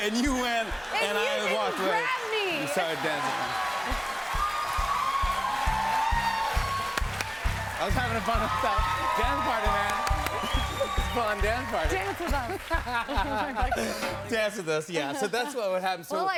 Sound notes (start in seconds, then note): 4.0 cheers and applause